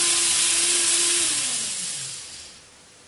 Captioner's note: motor stops again